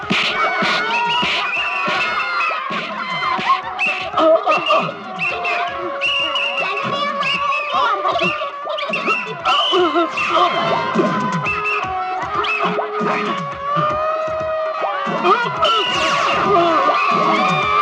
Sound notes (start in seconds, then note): 0.9 whistle blows